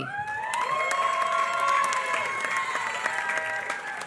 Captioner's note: applause